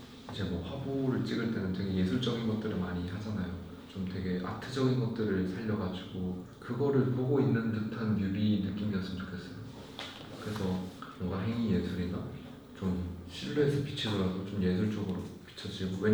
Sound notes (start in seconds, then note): none